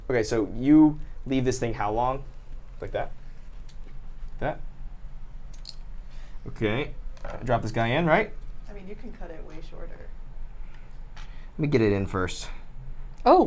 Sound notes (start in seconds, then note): 5.4 scissors snip